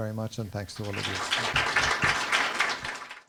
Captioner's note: applause